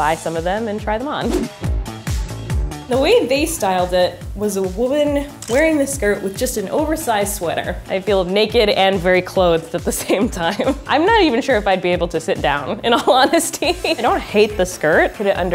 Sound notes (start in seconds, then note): 10.6 laughs; 13.3 laughs